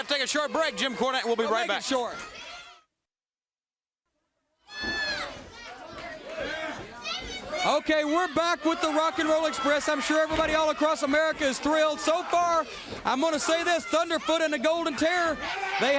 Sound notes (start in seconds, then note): 3.2 crowd chatter